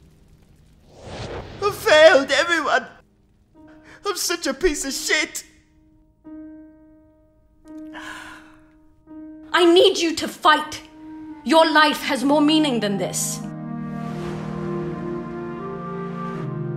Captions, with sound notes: I failed everyone! I'm such a piece of shit! [gasp] I need you to fight! Your life has more meaning than this! [nostalgic music]